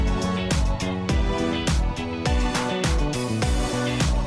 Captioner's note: hands clapping